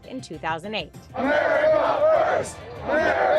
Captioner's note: crowd